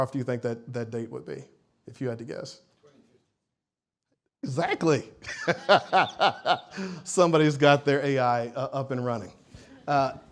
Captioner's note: laughs